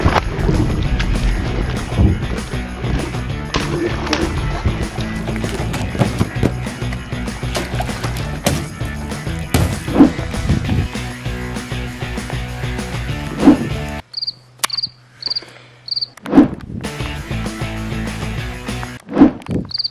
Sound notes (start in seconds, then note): 0.2 water splashes; 14.2 crickets chirping; 16.9 upbeat music